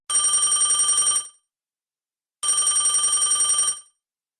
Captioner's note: phone ringing